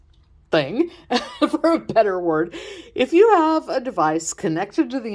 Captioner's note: giggle